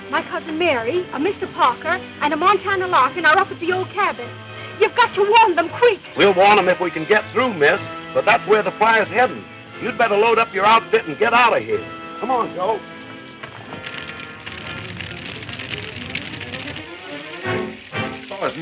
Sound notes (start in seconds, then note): 14.3 fire crackling; 16.9 intense orchestral music